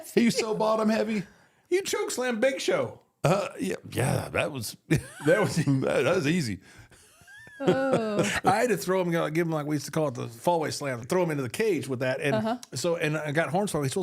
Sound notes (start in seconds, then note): 0.0 laughs; 4.5 laughs; 7.1 both laugh